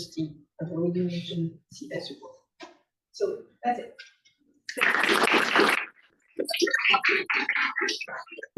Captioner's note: applause